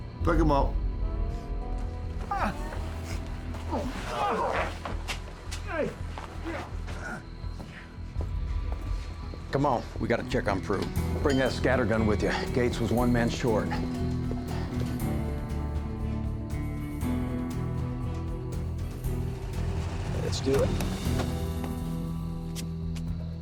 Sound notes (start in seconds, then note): 0.2 scottish accent; 2.3 geraldo continues groaning; 13.7 tense music; 21.4 car doors open